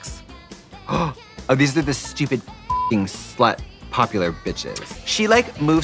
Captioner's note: beeping